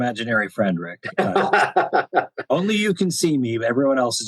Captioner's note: laughter